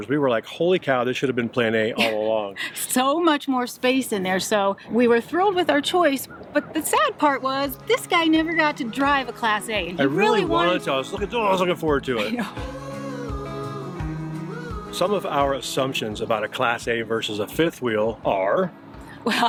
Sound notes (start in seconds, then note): 12.1 chuckles; 13.1 soft rock music